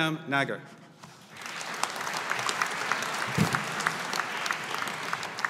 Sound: audience applauding

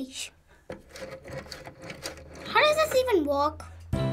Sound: dialing

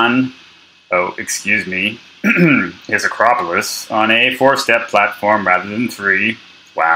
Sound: throat clear

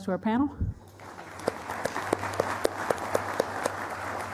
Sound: applause

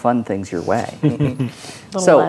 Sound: players chuckling

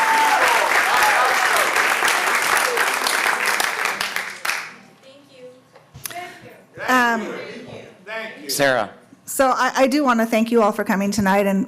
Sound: cheering and applause

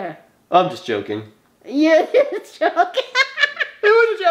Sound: laughs

